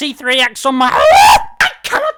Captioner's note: screaming